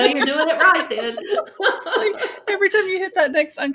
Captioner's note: laughing